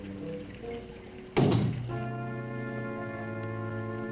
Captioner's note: liquids bubbling; ominous music; knocks once on door; ominous music